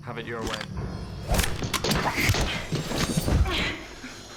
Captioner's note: grunting